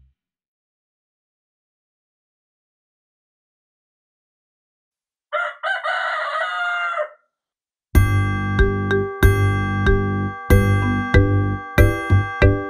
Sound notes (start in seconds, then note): 5.3 rooster crows; 7.9 upbeat music